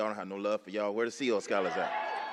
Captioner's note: applause